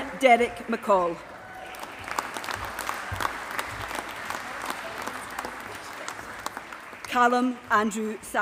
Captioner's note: applause